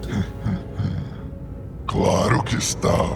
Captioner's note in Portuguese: risada maligna